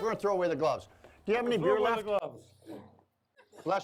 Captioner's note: sneezes